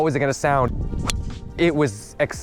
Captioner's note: club smacking ball